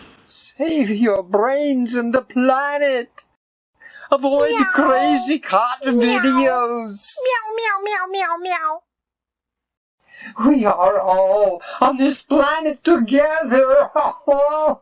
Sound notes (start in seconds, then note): 0.0 crashing; 5.8 cat meowing; 11.1 bellowing Uh ho